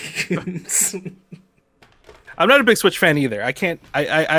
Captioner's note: laughs